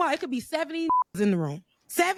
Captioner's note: beep